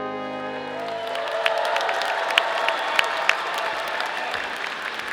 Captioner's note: audience applauding